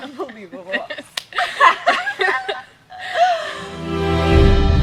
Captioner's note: Kody and Macy laugh; dramatic music